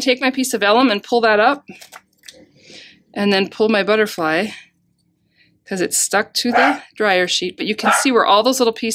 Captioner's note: dog barking